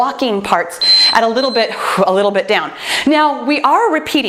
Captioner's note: timer beeps